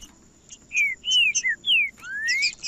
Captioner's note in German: trinca ferro cantando